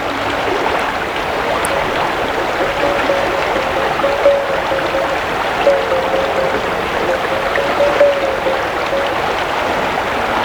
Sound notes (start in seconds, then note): 2.6 popping, tapping noise